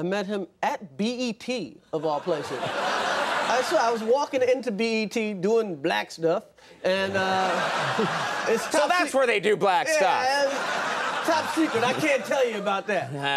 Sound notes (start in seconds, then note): 2.1 audience laughing; 7.0 audience laughing